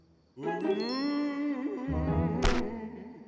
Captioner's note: ghostly moaning